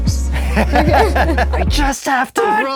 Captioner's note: laughing